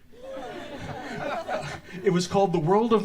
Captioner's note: audience laughs